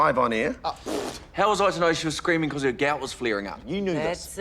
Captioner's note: sputters